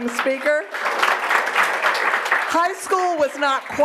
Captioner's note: attendees applauding